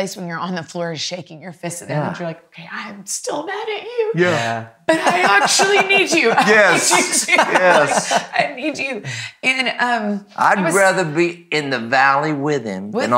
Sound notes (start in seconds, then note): 4.9 laughing; 7.5 laughs